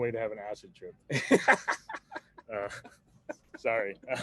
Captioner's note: laughs